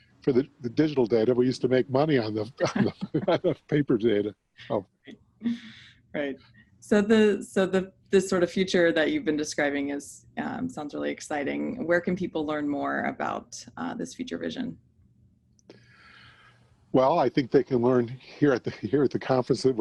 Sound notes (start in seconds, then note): 4.1 laugh